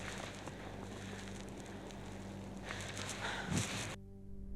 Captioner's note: heavy breathing